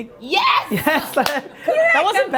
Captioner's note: cheers